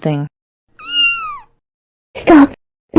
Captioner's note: meow